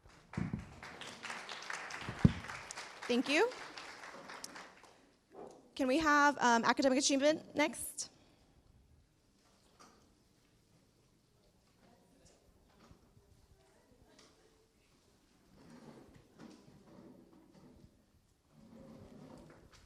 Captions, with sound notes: (clapping) Thank you. Can we have academic achievement next?